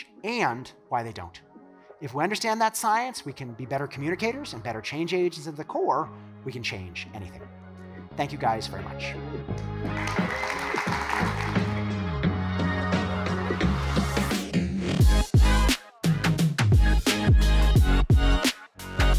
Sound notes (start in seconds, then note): 9.5 upbeat music; 9.6 audience clapping; 11.8 upbeat music